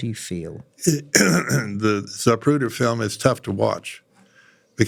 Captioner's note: cough